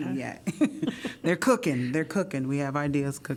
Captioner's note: laughter